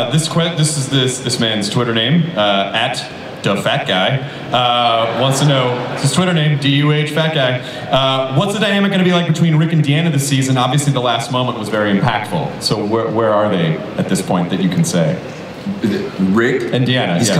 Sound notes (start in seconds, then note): 4.6 audience laughs